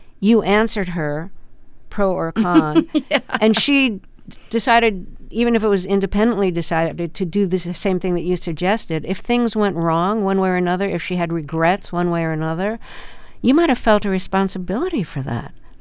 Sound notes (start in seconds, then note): 2.4 laughter